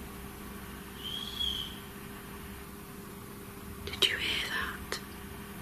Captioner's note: whistling